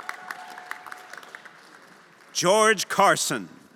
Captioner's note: everyone applauding and cheering